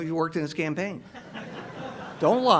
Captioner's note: audience laughs